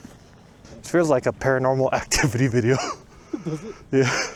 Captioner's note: chuckles